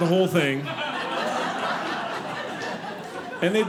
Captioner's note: audience laughing